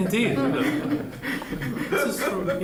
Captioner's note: laughter